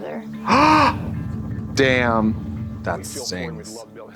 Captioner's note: Trixie gasps